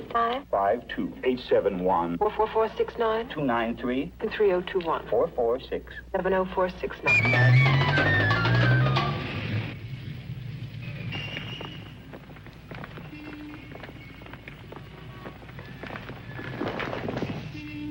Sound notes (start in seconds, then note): 7.6 soft dramatic music; 11.0 footsteps pattering softly